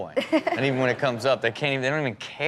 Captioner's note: Chanel and audience laughing